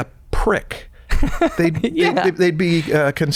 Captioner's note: laughs